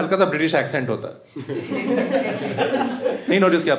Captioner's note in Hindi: हँसना